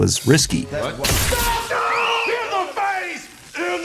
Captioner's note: screaming